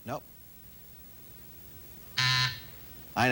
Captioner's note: buzzer